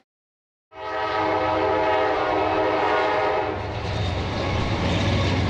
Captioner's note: train whistle blowing; train rumbling